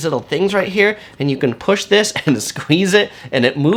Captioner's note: chuckles